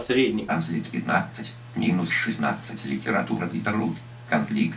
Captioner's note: speech synthesizer voices the name of an article at the normal speed